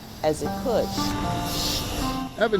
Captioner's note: bus rumbles